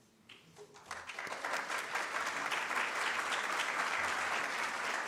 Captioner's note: audience claps